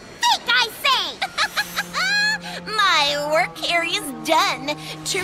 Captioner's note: laughs